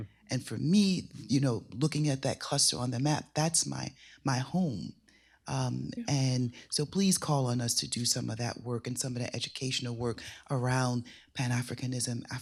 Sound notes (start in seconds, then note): none